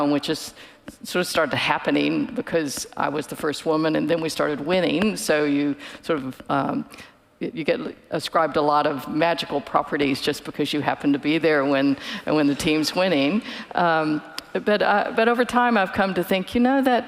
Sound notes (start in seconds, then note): none